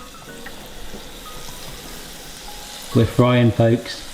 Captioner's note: oil popping